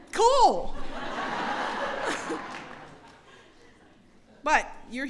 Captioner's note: laughter